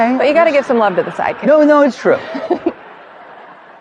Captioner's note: giggles